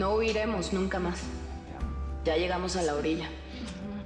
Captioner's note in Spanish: Voz de Vicenta